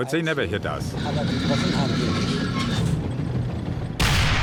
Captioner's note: turret whirring; tank turret firing